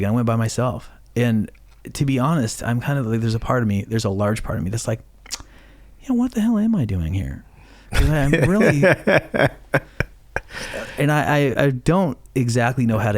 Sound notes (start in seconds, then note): 7.9 laughing